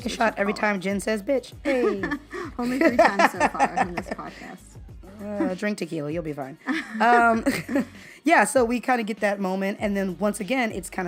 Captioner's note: laughter